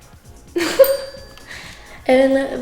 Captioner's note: laughs; bell chimes